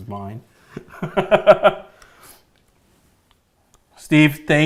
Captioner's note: laughing